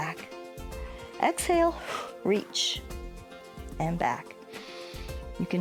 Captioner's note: exhales